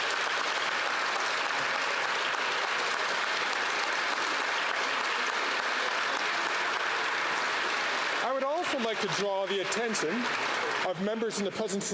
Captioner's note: applause